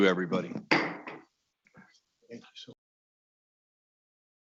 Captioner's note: gavel knocking